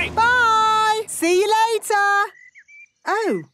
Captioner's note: none